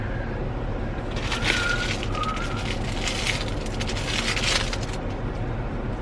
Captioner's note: plastic crinkling